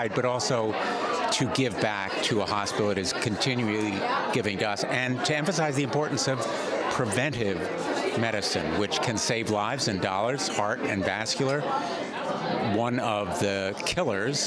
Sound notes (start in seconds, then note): none